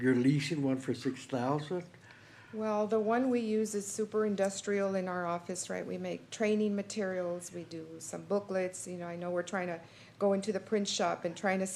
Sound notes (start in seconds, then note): none